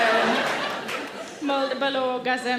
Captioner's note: audience laughs